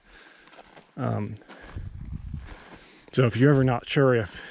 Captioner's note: footsteps thumping